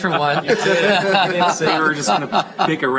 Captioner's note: laughter